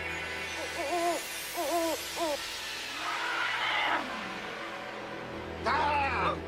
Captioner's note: screaming